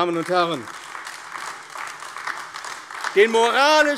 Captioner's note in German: Beifall AfD